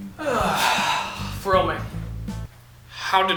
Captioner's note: long sigh